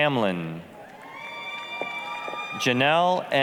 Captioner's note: applause, cheering